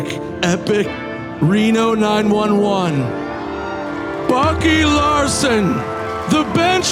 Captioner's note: audience cheering